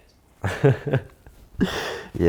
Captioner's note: laughs